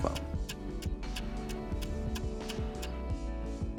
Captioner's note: clock Ticking